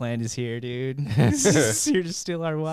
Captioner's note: laughing